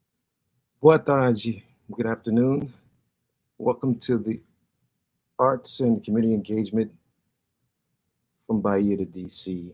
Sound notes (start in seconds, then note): 1.0 speaking Portuguese